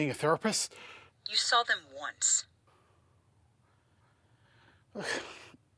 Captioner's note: on phone